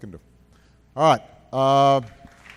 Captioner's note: applause